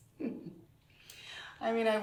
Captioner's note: laughing